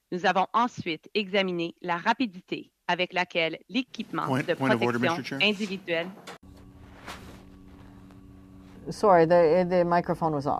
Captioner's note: speaking French